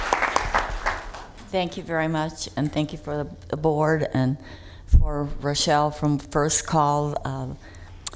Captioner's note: applause